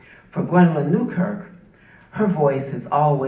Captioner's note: none